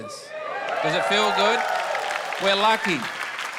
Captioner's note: audience cheers